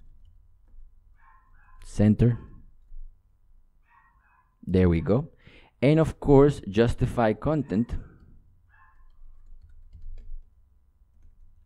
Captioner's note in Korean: 멍멍이 짓는 중